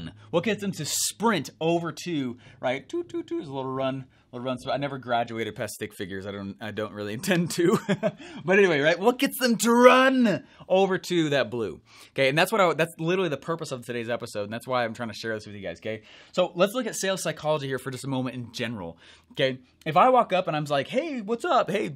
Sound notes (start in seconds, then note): 7.2 laughs